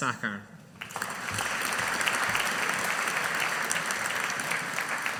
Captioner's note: audience applauding